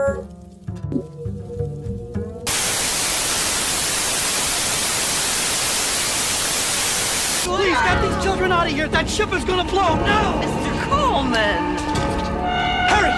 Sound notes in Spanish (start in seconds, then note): 2.4 zumbido